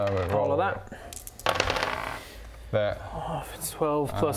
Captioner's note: none